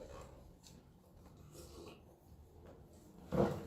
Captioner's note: slurp